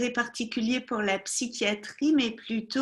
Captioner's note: speaking French